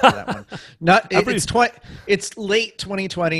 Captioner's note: laughs